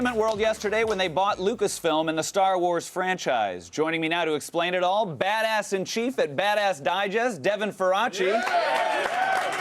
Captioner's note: applause